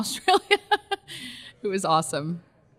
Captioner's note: laughs